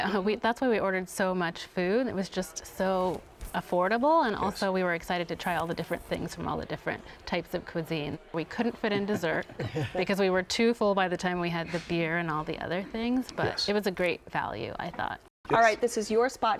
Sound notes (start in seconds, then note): 8.9 laughter